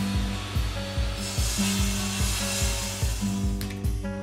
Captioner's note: saw whirring; saw buzzing